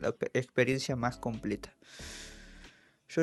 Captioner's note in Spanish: Suspiro